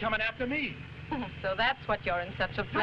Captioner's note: Raina chuckling